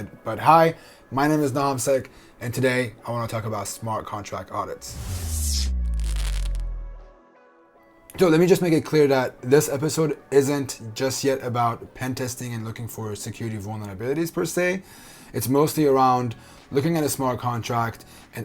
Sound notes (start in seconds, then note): 4.8 logo whooshing; 6.4 neon crackling